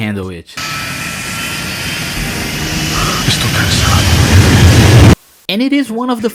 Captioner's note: jet engine sound in the background